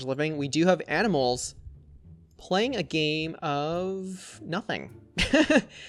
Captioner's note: laughs